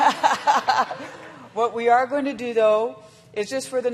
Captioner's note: laughter